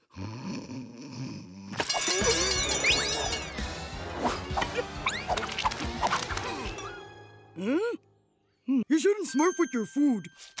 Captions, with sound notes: [snoring] [ringing] Huh. You shouldn't smurf with your food.